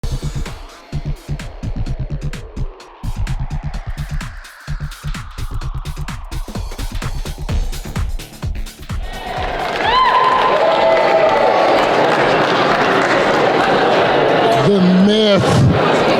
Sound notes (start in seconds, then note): 9.2 applause